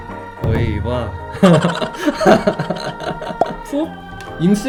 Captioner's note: chuckles